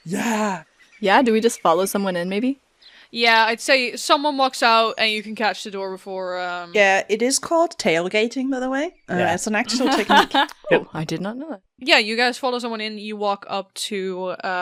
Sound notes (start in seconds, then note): 9.7 laughter; 11.5 birdsong and outdoor ambience fades away